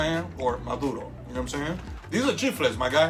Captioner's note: speaking in foreign language